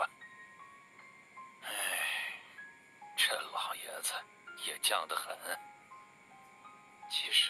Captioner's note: sigh